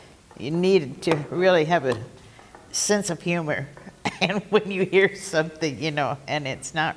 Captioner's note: laugh